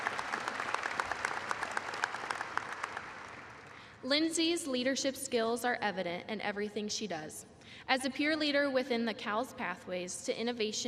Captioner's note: applause